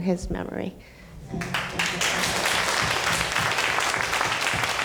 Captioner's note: applauding